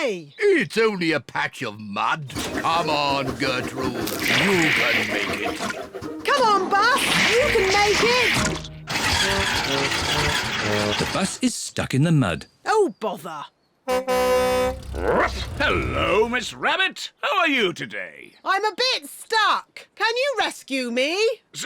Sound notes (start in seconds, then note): 9.2 engine stalls; 13.8 honks horn